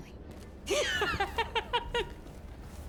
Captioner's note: laughs